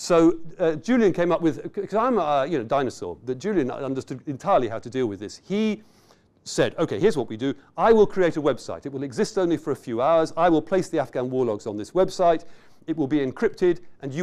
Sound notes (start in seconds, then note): none